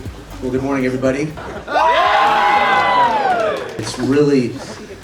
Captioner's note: yells